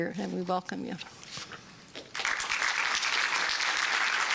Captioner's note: applause